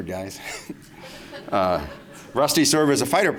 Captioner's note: laughter